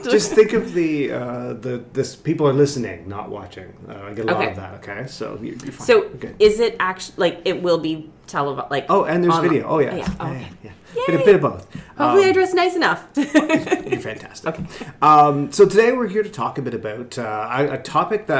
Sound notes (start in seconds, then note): 13.2 laughing